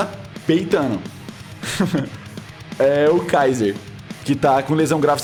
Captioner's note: giggling